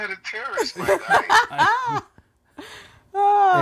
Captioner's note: laughing